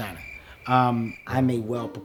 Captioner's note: crickets chirping